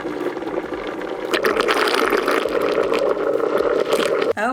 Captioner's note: mixture gurgling